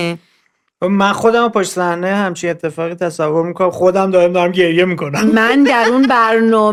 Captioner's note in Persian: خنده